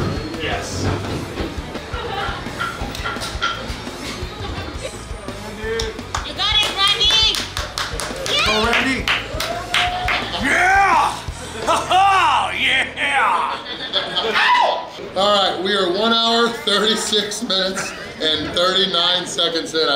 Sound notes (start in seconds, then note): 7.6 clapping; 11.5 man laughing; 14.3 crowd member screaming